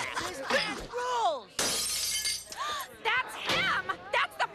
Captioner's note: gasping